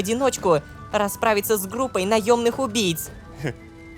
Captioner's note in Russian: шепотом